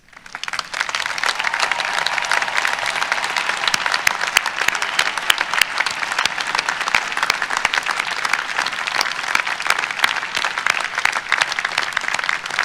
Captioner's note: applause